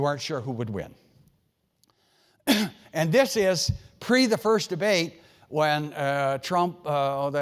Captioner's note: cough